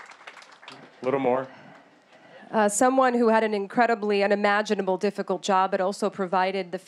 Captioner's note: applause